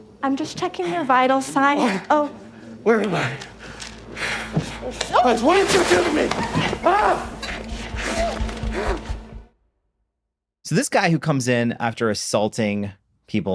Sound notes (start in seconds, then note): 3.5 breathing intensifies; 7.7 straining